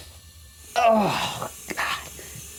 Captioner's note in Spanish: agua corriendo; Jonathan gime